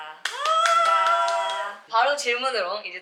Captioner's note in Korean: 짝짝짝